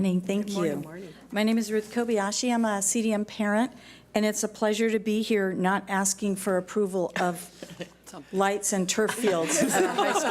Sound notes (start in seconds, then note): 1.7 in Unison